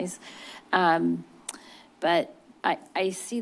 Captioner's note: clicks tongue